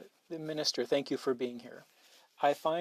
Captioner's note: speaking French